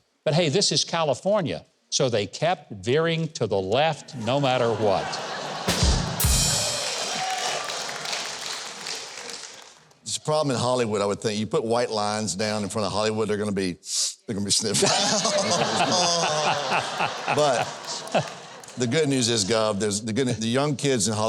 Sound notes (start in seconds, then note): 4.1 audience laughs; 5.6 cymbals crash; 14.8 guest and audience laughs